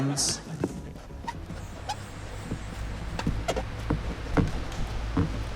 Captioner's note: fan whirrs softly, pen squeaks